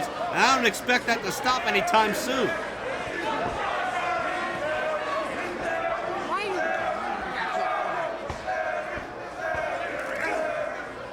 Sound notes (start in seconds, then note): 3.3 crowd chants